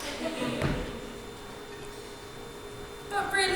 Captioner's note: audience laughs